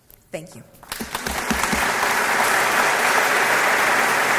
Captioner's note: applause